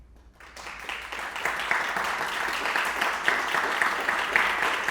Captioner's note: audience applauding